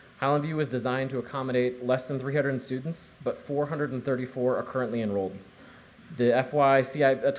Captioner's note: none